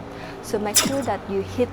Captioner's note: laser zap sound effect